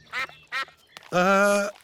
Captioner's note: sucks quacking